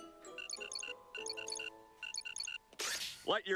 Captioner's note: beeping